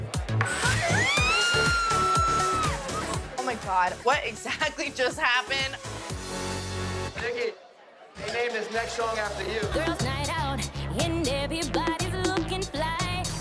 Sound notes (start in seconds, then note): 0.1 chuckles; 0.1 yells